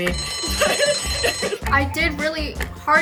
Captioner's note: bell dinging